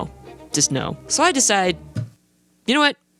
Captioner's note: hits desk